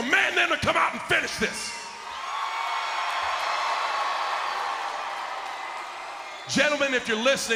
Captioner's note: applause